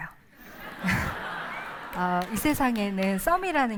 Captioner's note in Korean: 웃음